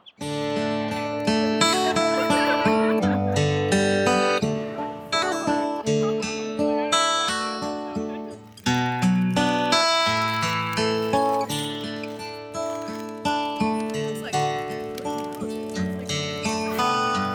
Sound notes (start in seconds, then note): 0.1 light acoustic music; 2.7 people laughing; 10.9 bag rustling